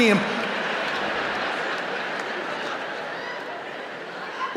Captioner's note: laughter